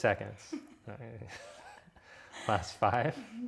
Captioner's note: giggles